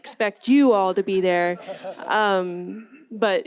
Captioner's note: audience laughs